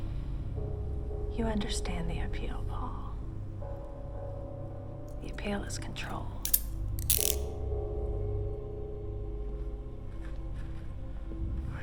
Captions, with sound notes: - You understand the appeal, Paul. The appeal is controlled. (handcuffs click) (suspenseful music)